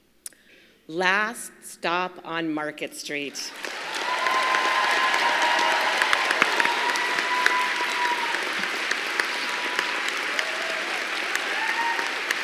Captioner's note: applause